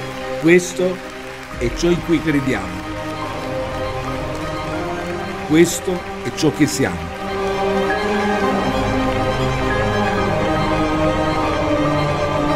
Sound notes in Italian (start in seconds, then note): 8.0 Applauso